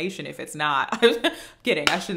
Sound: laughing

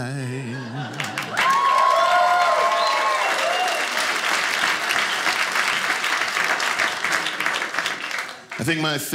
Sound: audience applauding

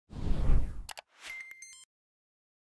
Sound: logo whooshing; mouse clicking

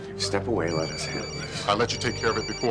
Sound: ringtone

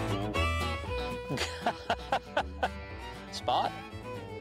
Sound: laughing

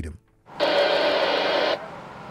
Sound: radio static

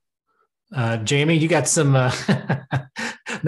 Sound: laughs

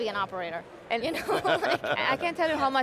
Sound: laughter

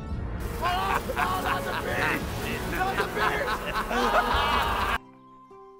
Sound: Ika-Chu laughs while Nicholas Cage complains about bees

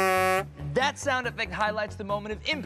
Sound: horn buzzes

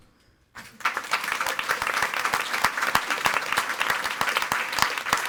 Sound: audience applauding

